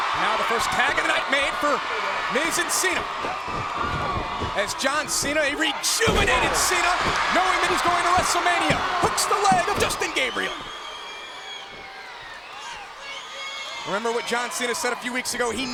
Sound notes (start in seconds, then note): 0.0 blow thudding; 3.5 footsteps plodding; 6.5 body thudding; 8.7 hands thudding